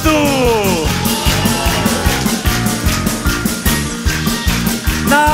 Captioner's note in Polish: oklaski publiczności